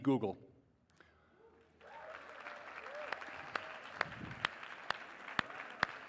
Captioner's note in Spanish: aplausos